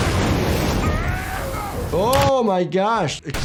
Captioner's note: explosion erupting; Mauler clone yelling